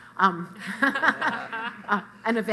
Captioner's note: laughter